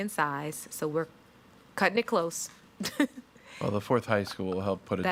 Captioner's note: chuckles